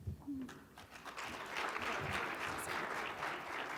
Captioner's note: audience applauding